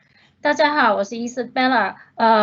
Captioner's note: Mandarin